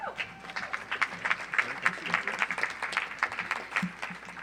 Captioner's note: audience applauds